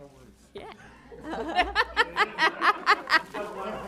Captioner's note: laughter